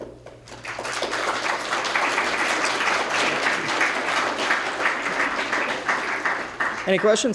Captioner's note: applause